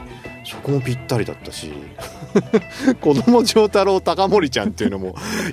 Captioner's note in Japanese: 笑い